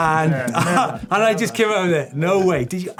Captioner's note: laughs